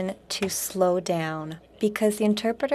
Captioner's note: speaking French